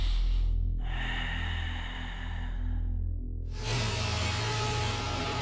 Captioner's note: deep breathing